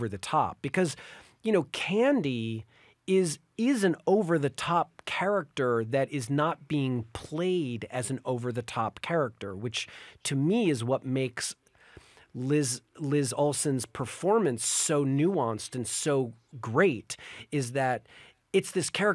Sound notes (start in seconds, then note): none